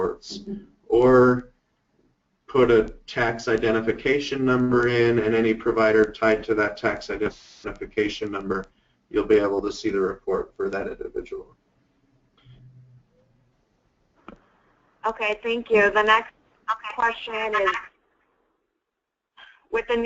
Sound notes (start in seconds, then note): 14.4 voiceover